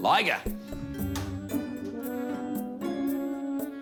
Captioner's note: thwack!